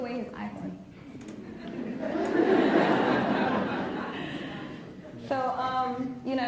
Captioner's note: laughs